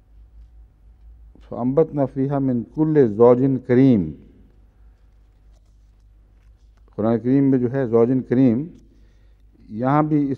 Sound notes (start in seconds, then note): 1.3 Arabic